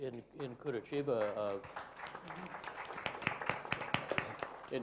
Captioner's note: applause